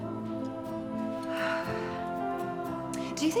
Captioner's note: Elizabeth sighs